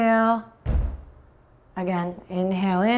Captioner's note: thuds on floor